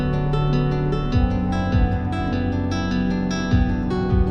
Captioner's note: none